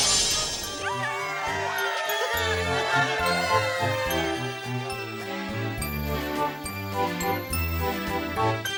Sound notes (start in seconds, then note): 0.7 cheering; 5.5 upbeat music